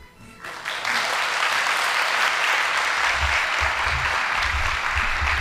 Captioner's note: audience applauding